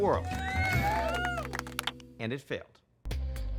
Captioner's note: crowd cheering